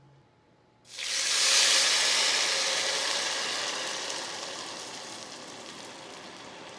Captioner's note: sizzles